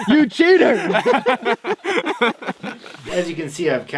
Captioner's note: all laughing